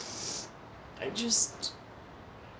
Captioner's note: sniffles